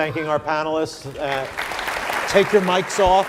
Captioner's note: audience applauding